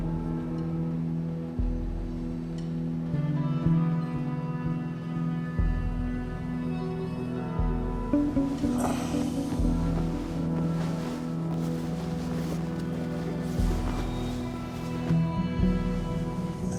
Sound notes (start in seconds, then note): 0.2 dramatic music; 9.5 Tommy grunts